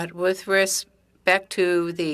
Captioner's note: speaking French